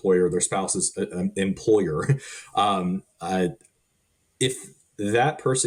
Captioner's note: chuckling